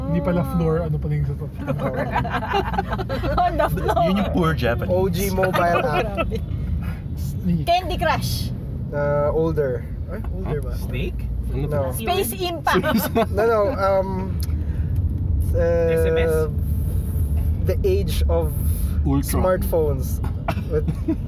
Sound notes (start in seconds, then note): 1.6 laughter